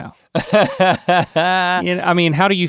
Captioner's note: laughs